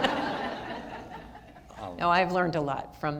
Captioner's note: audience laughter